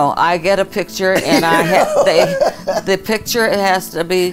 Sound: laughs loudly

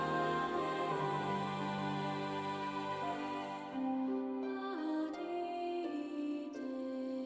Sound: whistles

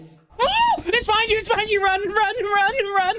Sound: screams

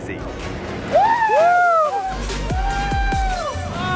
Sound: cheering

